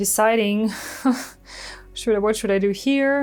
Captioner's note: chuckles